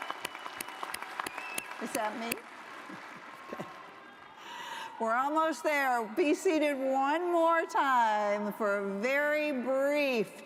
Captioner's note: applause